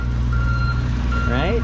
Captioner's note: tractor beeping